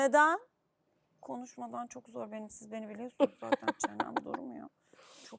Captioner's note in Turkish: kahkaha